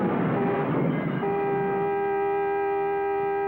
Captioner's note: horn honking